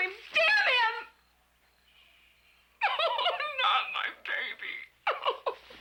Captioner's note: sobbing